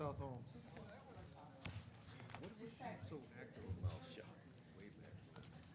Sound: people chattering

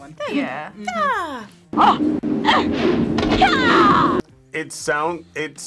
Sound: woman grunting

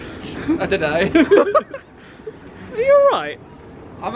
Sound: laughing

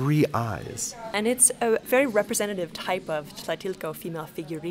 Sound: voiceover

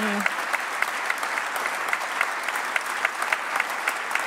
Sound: applause

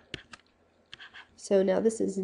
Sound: scribbling

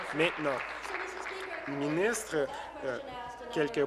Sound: applause

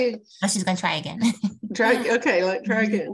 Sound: laughs

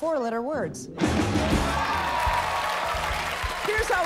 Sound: cheers and applause

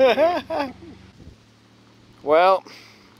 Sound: laughter

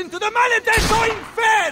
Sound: gunshot

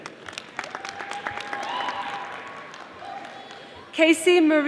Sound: audience applauding

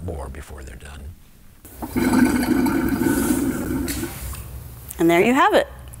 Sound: gurgle noise

